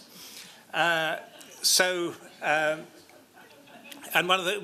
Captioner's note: laughter